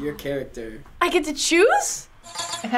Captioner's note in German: Aufgeregt